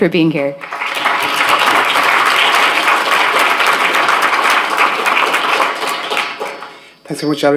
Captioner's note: applause